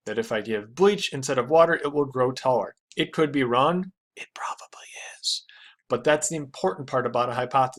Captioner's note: whispering* it probably is